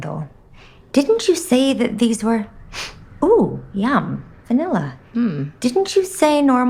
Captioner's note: sniff